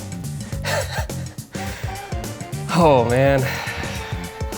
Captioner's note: chuckles